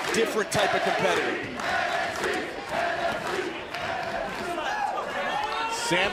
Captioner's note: crowd cheering